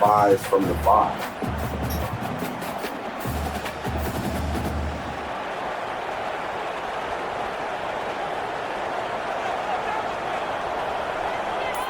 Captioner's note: crowd Noises